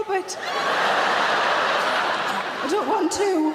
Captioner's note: audience laughs